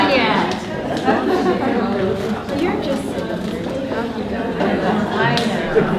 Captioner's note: participants talking at once